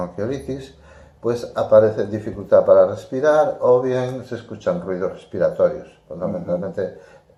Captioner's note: difficult breathing